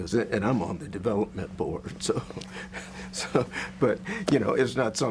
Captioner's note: laughs